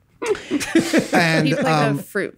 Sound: Charlie laughs

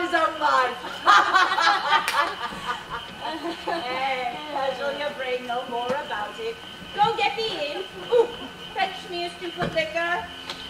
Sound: laughs

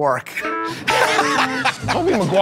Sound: laughter

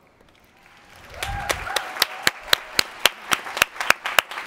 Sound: applause

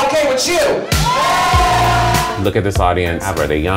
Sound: crowd cheers

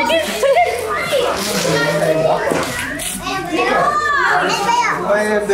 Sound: family chatters excitedly

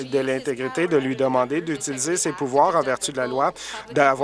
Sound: applause

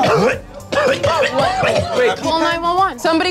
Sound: coughs

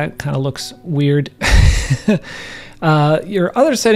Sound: instructor laughing

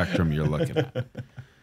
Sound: laughs

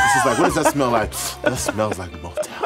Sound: laughing

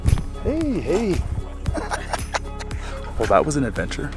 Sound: laughs

